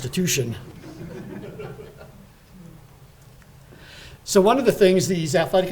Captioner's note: audience laughing